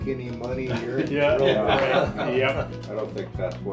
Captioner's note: laughs